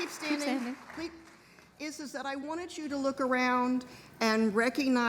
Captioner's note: applause